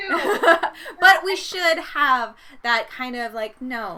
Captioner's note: laughing